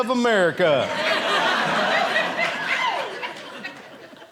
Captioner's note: audience laughing